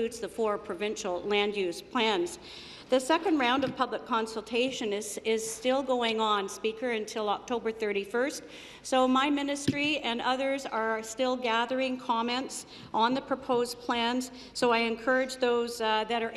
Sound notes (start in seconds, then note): none